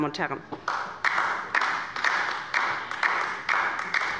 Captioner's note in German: Beifall bei der LINKEN